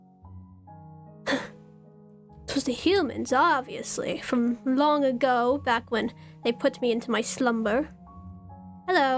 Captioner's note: huffs